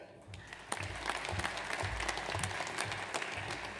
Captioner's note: audience applauds